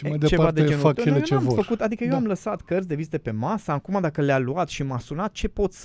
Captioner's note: laughter